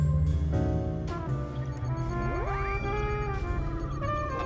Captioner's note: system beeping